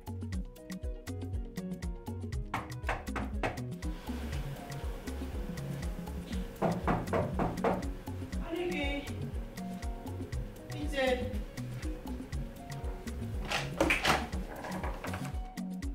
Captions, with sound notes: (Knocking) Who is that? I'm coming.